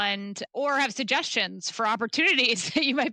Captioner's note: chuckles